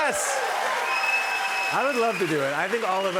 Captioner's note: cheers and applause